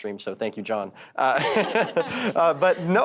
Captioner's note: panelists chuckles